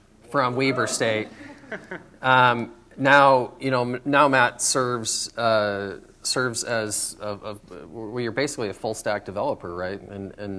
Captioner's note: laughter